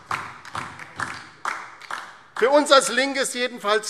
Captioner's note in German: Beifall DIE LINKE